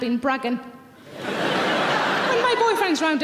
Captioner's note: audience laughs